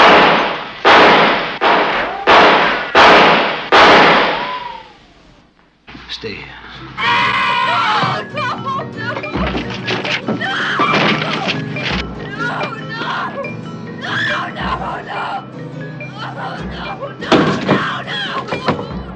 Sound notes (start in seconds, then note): 0.0 gunshots; 6.9 screaming